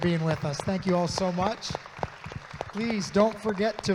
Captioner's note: audience claps